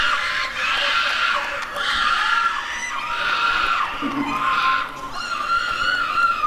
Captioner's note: applause and cheering